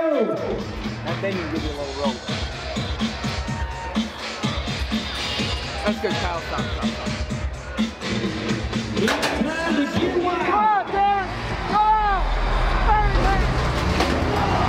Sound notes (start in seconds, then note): 3.5 upbeat music; 9.0 gate clanks; 10.9 people shouting